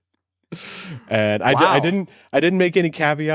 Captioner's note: laughs